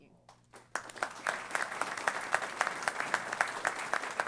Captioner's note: applause